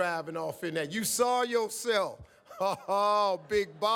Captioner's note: laughs